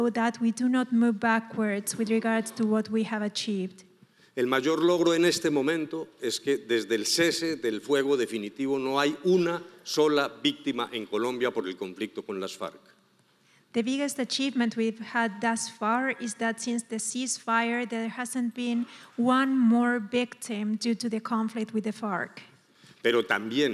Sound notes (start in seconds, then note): 4.7 speaking in foreign language